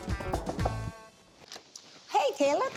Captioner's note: knocking on door